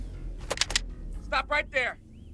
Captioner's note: gun clicking